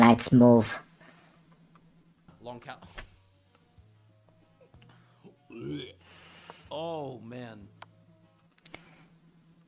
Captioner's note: gagging